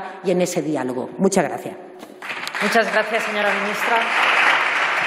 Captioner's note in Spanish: Aplausos